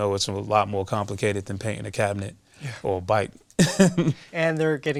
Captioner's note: laughs